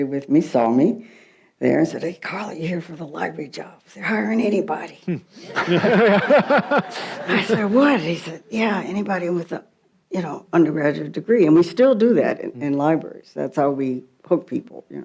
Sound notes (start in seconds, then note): 5.4 audience laughs